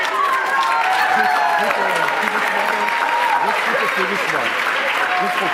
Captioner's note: applause